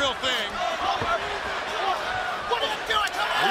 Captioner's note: crowd chatter